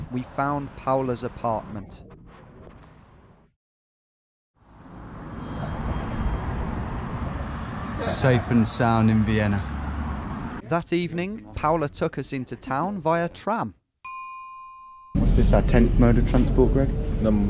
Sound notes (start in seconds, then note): 14.0 bell dinging